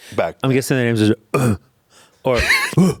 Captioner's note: grunting